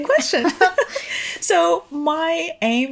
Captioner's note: chuckling